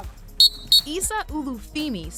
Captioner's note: whistle blows